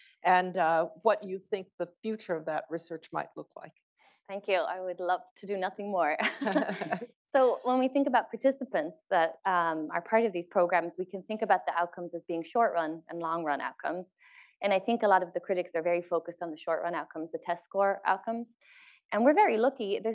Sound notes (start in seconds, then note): 6.3 laugh